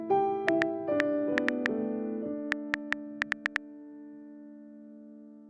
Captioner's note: typing clicks